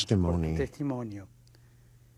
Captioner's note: speaking foreign language